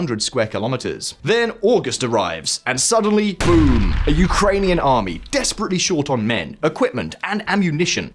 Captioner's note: boom!